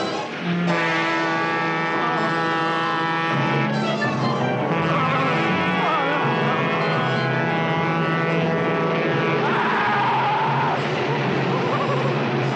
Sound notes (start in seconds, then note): 0.8 train horn blaring; 9.4 screaming; 10.8 nervous giggling; 11.9 train rumbling